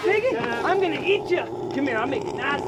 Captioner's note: Otis loudly grunting